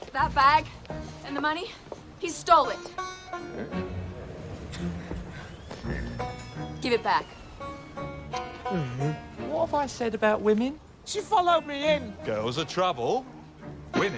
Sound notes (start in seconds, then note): 8.4 groans